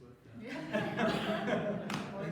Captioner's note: laughter